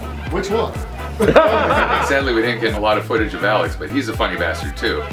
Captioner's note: laughter